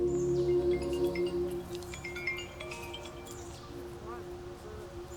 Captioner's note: phone chimes